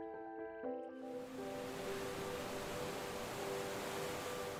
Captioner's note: water gushing